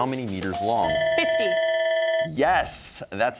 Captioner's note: bell ringing